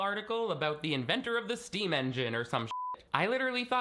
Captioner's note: beeping